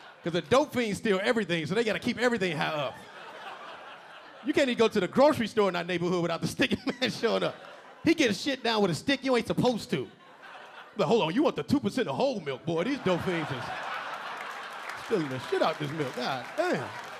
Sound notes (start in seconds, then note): 3.2 audience laughing; 7.4 LilRel chuckling; 7.4 audience laughing; 10.2 audience laughing; 12.9 audience laughing; 16.9 audience laughing and clapping